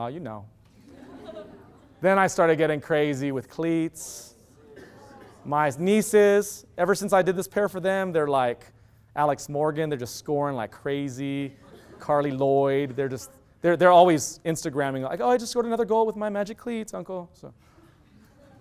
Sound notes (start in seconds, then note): 0.9 loud laughter